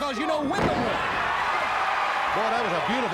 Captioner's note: fans cheering